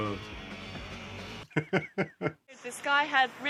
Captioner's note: risas